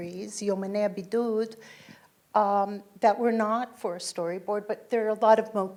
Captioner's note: foreign language